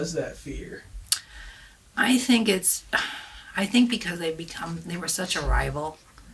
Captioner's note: sighs